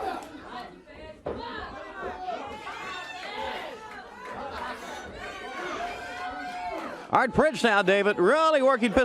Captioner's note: crowd chatter